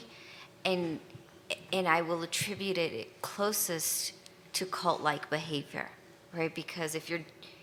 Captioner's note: stutters